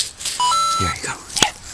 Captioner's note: coin sound effect